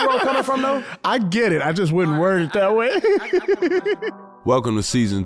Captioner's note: laughs